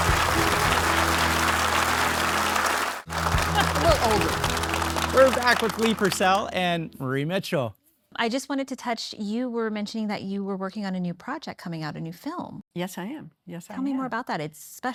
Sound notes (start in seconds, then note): 0.0 audience applauding